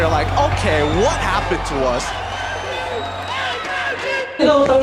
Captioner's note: crowd chanting; in Tagalog